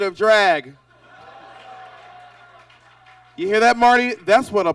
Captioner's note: audience laughs